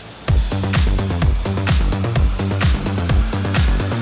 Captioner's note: engine accelerating